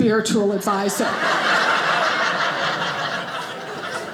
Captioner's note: audience laughing